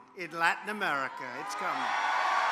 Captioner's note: applause